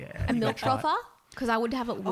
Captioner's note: voice muffled